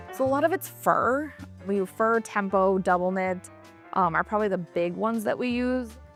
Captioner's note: none